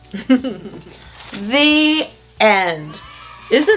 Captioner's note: chuckles